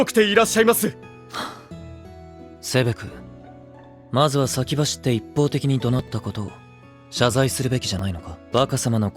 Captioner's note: sighs